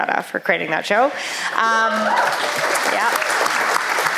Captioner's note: applause